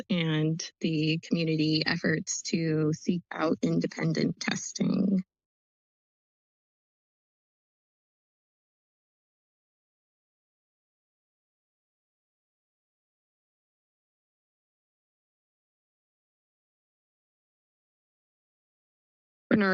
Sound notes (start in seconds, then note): 5.1 silence